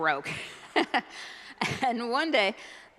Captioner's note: laughs